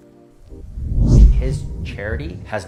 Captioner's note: air whooshing